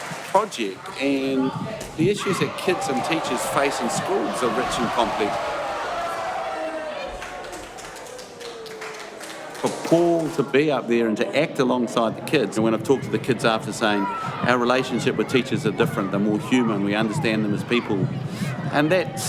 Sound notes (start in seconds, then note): 5.3 cheers